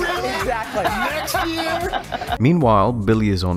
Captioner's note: laughter